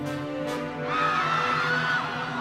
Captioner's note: terrified screams